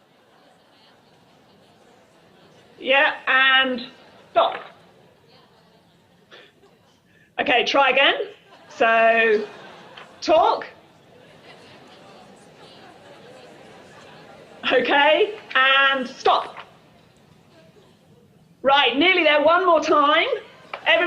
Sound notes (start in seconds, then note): 0.0 group chatter; 8.3 group chatter